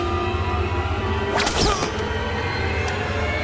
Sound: grunting

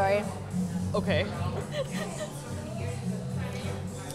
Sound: chuckles

